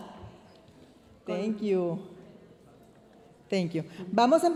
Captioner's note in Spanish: hablando en inglés